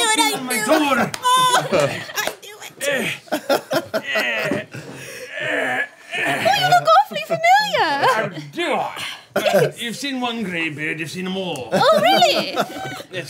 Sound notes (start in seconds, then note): 2.7 laughing; 4.0 groaning; 11.7 group giggling